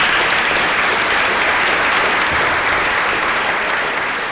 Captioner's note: applause